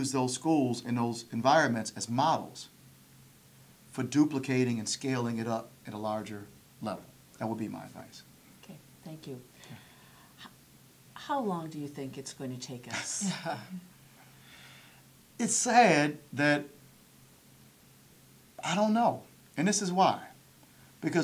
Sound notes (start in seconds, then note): 12.9 laughter